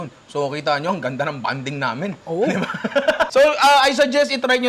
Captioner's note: laughs